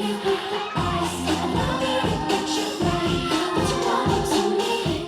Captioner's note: audience cheering